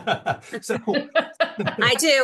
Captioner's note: laughing